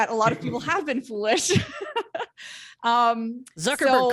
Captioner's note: laughs